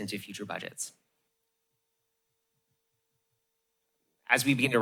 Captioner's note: pause